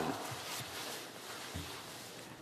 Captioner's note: some Applause